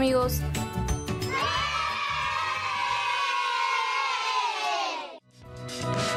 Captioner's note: cheers